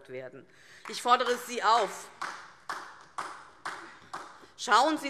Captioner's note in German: Beifall DIE LINKE